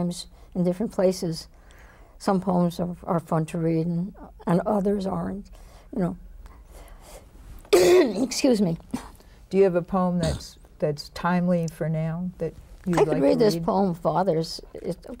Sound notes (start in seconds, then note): 7.7 coughs